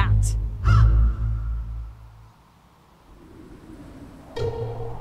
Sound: bird squawking; pensive music; wind howling

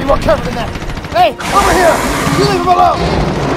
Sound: rapid Gunshots

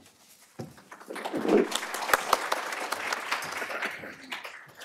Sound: applause

